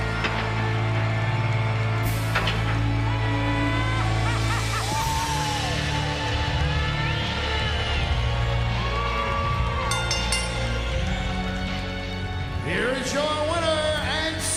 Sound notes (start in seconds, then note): 4.0 Paul Bearer laughing; 9.8 bell dings